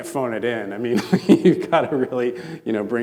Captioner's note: laughing